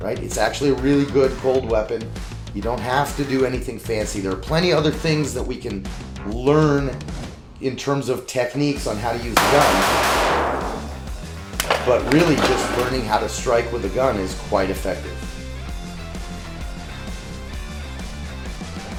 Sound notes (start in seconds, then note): 9.2 gunfire popping; 16.1 upbeat music